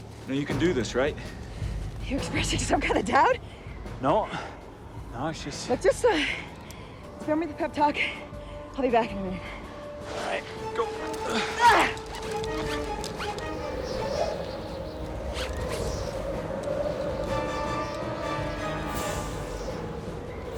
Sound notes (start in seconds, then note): 11.2 Kelli grunts; 14.5 wind whistling; 17.1 dramatic music playing